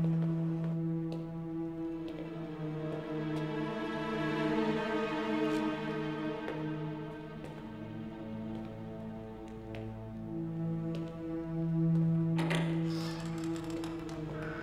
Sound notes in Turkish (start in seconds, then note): 12.3 Kapı açılma sesi